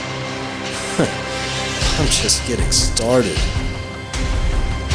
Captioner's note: chortles